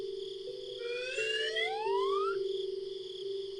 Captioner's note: slide whistle